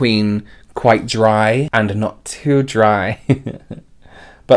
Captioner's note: chuckles